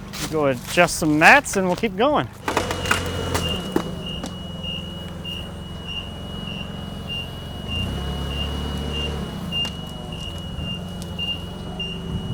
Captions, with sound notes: I'll go adjust some mats and we'll keep going. (protection mats crunching) (fork truck beeping)